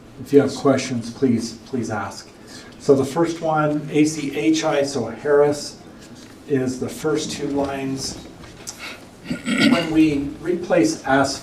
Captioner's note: clears throat